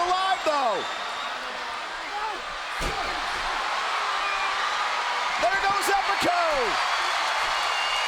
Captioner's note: applause